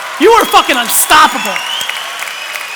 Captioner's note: applause